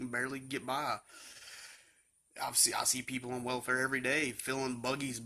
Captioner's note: sighs